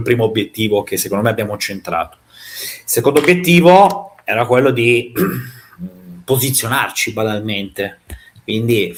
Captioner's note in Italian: schiarire la voce